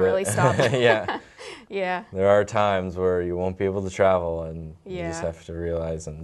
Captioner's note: both laugh